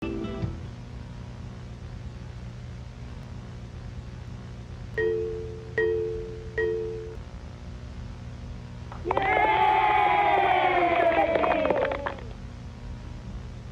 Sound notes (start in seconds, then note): 0.0 soft music; 5.1 light chiming; 9.0 crowd cheering